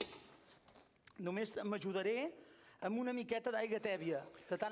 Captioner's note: non-english speech